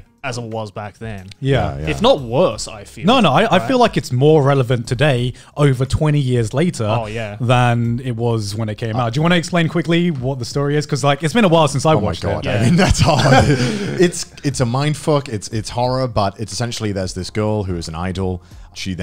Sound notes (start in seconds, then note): 12.5 both laughs